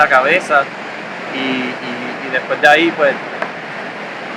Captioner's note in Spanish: Sonido Olas